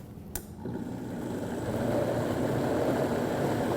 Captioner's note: blender sound